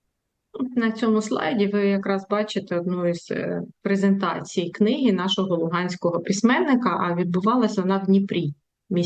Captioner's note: foreign language